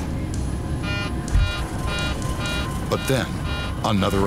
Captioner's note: alarm sounding